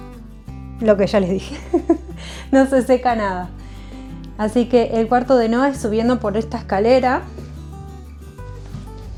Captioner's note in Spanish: risas